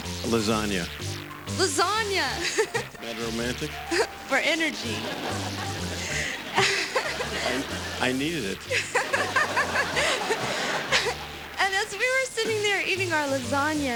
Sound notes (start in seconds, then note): 4.8 laughter